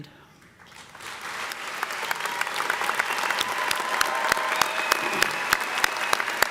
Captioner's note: audience applauding; audience cheering